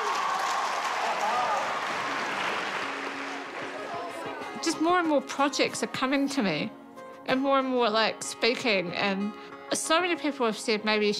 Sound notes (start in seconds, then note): 2.7 cheers and applause